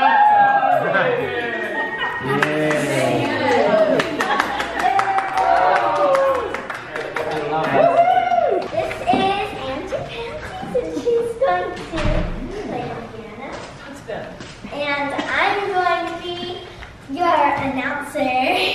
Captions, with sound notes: (cheering) (clapping) (cheering) - This is aunty pantsies and she's going to, play the piano. - That's them. - And I'm going to be your announcer.